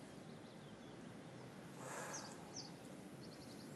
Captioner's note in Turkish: İç çekme